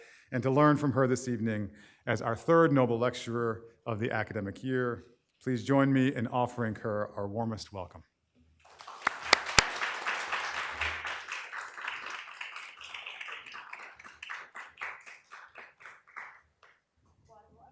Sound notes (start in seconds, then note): 8.3 applause